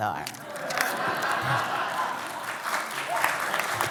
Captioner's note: laughter and applause